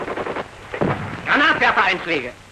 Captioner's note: boom